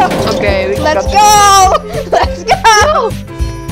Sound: laughs

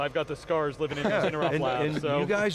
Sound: laughing

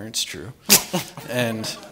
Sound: laughs

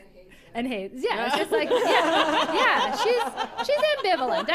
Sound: laughter

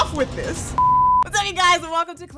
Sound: beep

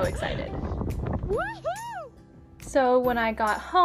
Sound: girls cheering

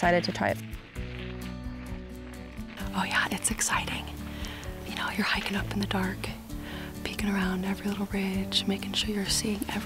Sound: whispering

